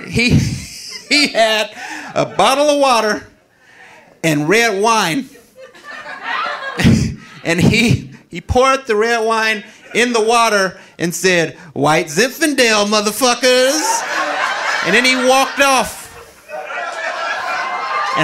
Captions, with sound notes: He had a bottle of water and red wine (audience laughing) and he poured the red wine in the water and said "White Zinfandel, mother fuckers." And then he walked off. (audience laughing)